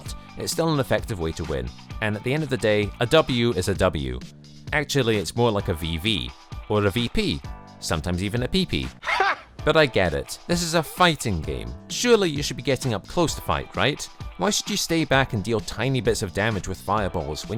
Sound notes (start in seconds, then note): 9.0 laughs